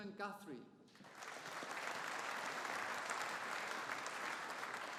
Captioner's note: audience applauding